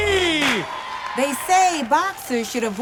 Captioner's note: crowd cheering